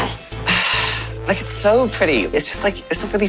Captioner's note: sigh